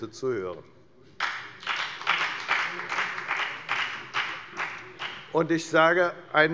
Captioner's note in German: Beifall bei der FDP